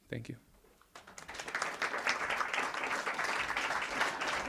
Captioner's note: audience applause